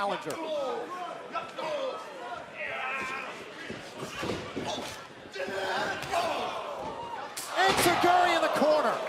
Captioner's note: crowd chatter